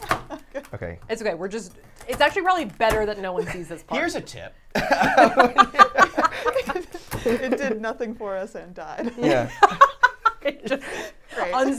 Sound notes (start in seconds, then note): 4.7 all laughing; 9.0 all laughing